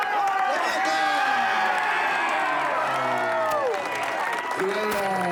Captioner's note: cheering and applause get louder